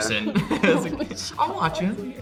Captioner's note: Emma and Hunter laugh